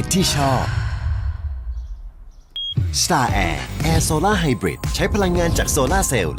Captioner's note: sigh